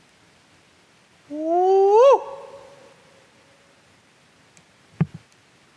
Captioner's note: investigator howls; faint thump